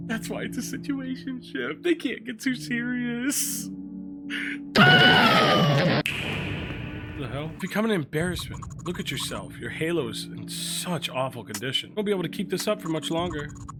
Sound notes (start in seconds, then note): 4.7 Skull yells